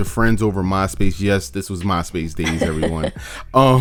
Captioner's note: laughs